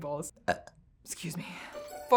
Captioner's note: burps